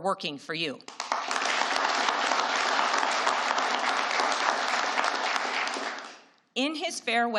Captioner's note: applause